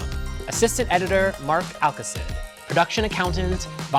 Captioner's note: none